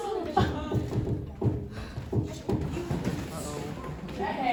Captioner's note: A knock at the door